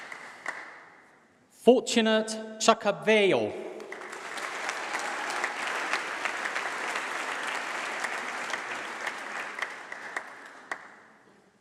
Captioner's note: applause